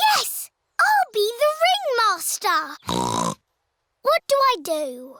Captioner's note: snorts